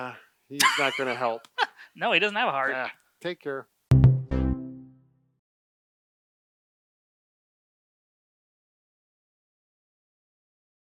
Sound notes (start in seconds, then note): 0.6 laughs